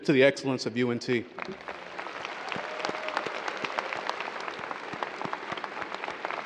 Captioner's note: audience cheers and applause